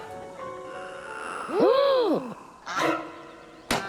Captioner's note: sinister croak, all gasp; squawking, toy gun fires